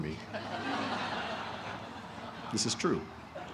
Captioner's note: laughter